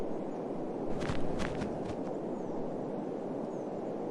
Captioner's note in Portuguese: Sons de passos na grama